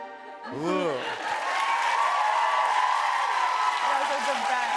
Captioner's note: cheers and applause